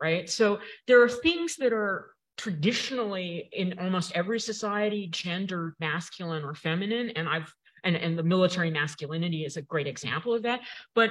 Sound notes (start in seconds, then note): none